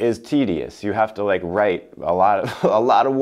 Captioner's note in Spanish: risas